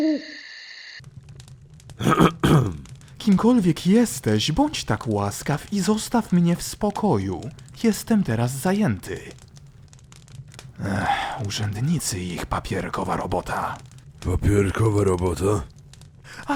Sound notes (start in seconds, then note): 10.8 sigh